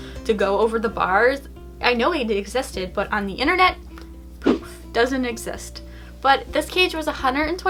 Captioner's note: poof